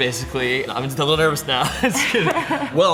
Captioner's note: laughs